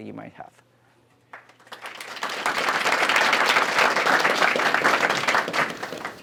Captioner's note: applause